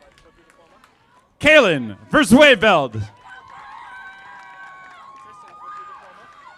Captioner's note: audience applauding